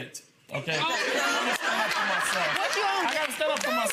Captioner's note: audience laughing